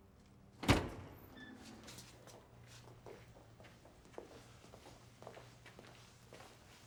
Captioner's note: doors bang open; footsteps shuffle